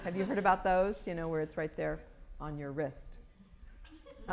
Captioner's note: laughter